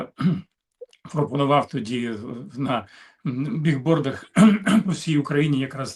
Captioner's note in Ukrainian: прочищення горла